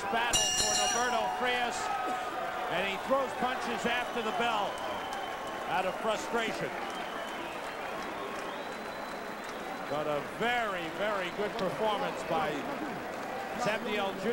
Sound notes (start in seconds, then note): 0.2 bell rings; 7.5 audience applauds and cheers loudly